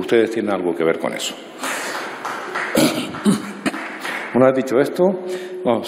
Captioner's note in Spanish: Aplausos